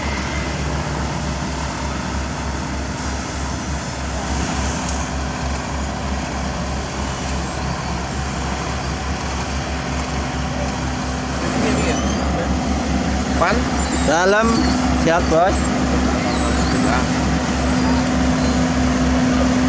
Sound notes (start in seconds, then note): 11.1 engine